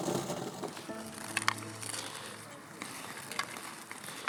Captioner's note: ice crunches